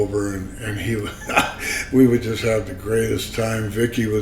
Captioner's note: laughs